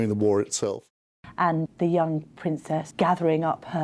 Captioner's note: voiceover